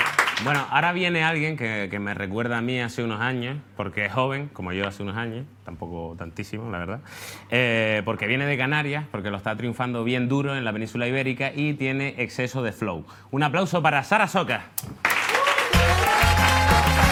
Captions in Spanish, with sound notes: Bueno, ahora viene alguien que me recuerda a mí hace unos años porque es joven, como yo hace unos años, tampoco tantísimos la verdad, porque viene de Canarias, porque lo está triunfando bien duro en la Península Ibérica y tiene exceso de "flow". ¡Un aplauso para Sara Socas! (Aplausos)